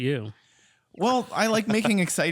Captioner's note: laughs